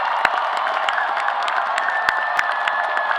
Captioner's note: applause